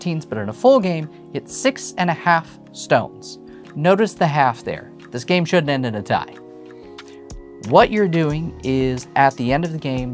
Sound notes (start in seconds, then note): none